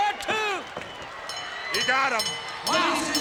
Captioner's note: bell rings